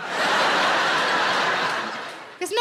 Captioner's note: audience laughing